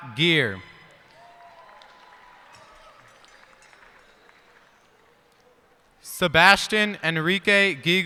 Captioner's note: cheers and applause